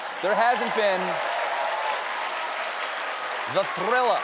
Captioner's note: cheers and applause